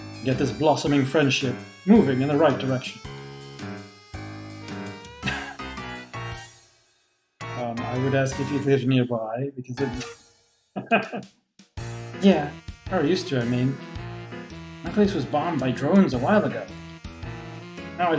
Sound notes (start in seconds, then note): 5.2 laughs; 10.8 laughs